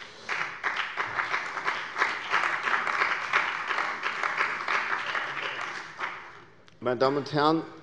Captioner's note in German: Beifall bei der CDU und dem BÜNDNIS 90/DIE GRÜNEN